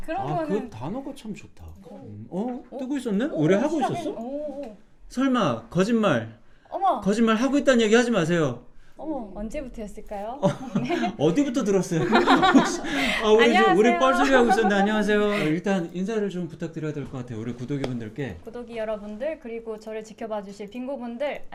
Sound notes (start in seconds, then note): 12.0 laughing